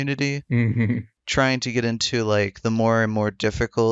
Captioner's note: laughs